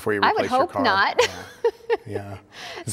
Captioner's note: chuckles